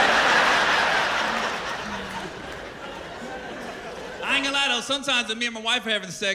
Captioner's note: laughter